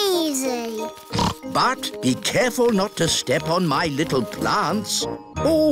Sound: snorts

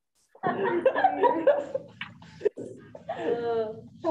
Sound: group laughing

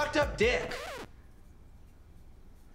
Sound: record scratch

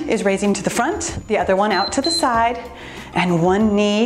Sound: timer beeps

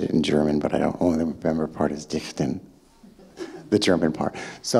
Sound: speaking in German

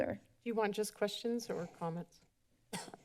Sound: coughs

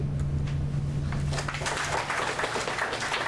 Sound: applause

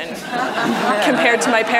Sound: audience laughter

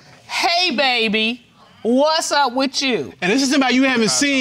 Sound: judge dana reading

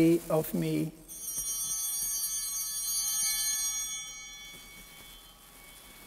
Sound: chimes ringing

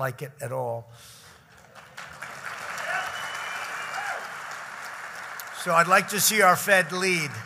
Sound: applause

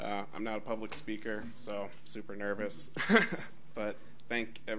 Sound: laughs

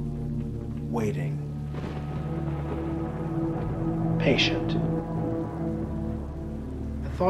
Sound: thunderclap

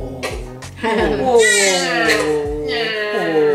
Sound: cries

